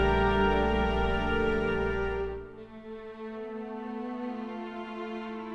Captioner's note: none